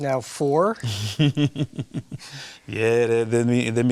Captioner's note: laughs